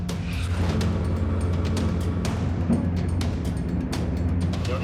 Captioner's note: boat engine roaring